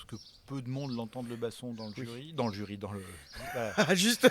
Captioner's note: laughs